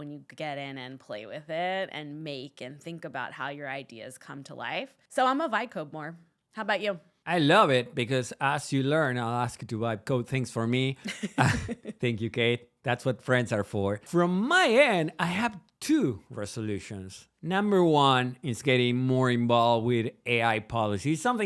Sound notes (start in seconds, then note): 11.0 laughs